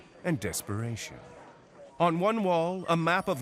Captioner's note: phones ringing, chatter